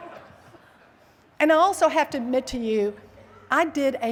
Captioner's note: laughter